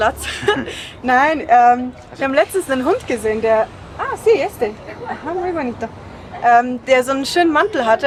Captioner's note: laughs; in Spanish